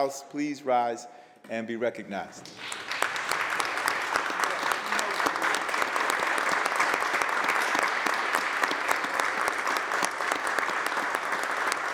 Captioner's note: applause